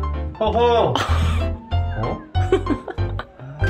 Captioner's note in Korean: 웃음